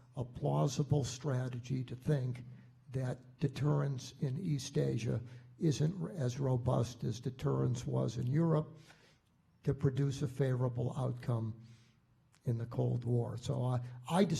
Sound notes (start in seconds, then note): none